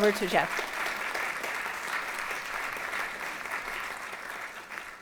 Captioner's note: applause